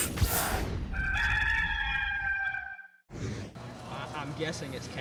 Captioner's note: rooster crowing